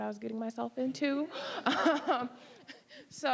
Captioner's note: all laughing